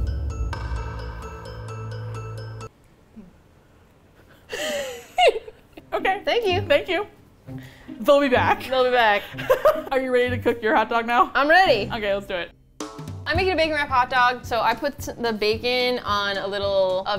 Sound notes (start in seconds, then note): 0.0 suspenseful music; 4.2 laughs; 9.1 laughs